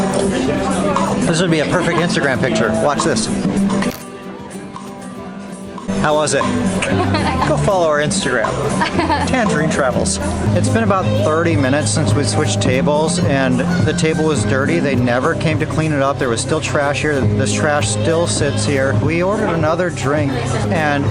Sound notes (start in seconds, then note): 6.4 laughs